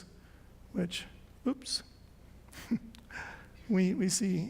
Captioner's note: chuckles